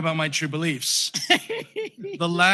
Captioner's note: laughter